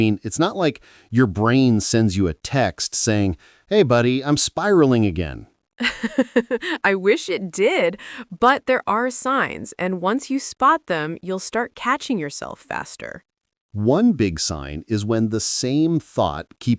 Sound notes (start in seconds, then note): 5.8 laughs